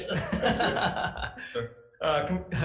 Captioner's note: laughing